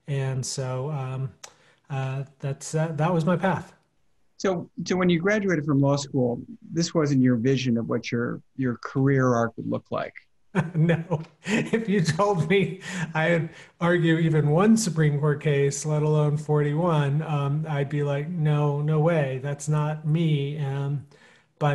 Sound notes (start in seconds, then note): 10.5 chuckling